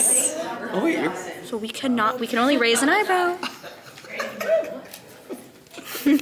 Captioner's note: giggles